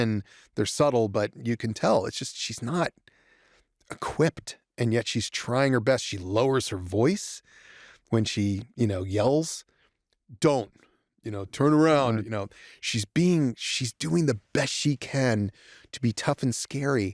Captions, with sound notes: They're subtle, but you can tell. It's just-- She's not equipped, and yet she's trying her best. She lowers her voice when she, you know, yells, (IN A DEEP VOICE) "Don't!" You know? "Turn around!" You know? She's doing the best she can to be tough and scary.